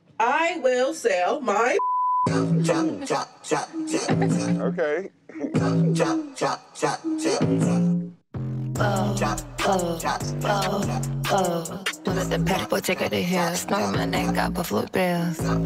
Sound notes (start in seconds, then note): 3.9 laughing